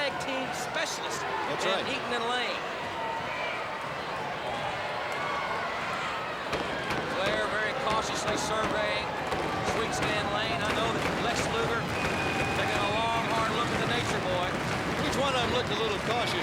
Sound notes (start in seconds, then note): 5.2 crowd chatter